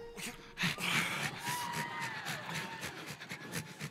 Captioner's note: Sven panting